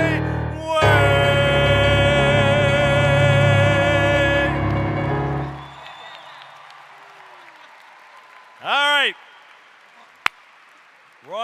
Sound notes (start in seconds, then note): 5.5 applause